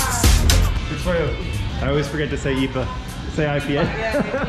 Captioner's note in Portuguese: risos